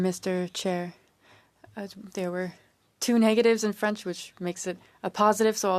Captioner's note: speaking French